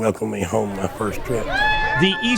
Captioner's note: cheering